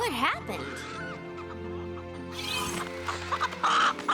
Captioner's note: chicken clucking